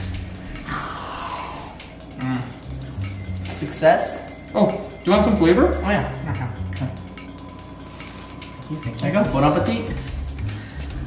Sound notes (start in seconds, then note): 0.6 spraying; 7.7 spraying